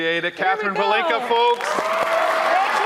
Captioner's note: audience applauding; audience cheering